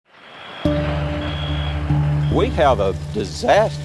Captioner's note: alarm beeping; pensive music